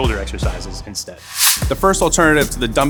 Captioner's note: swooshing noise